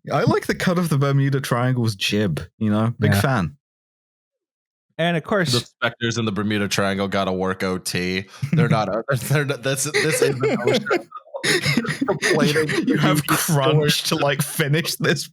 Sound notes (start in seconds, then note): 9.8 laughs; 12.9 laughing; 14.6 laughter